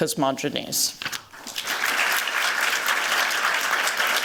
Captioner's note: applause